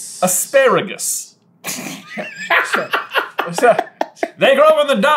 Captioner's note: giggling with glee